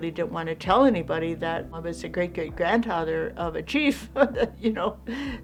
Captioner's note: laughs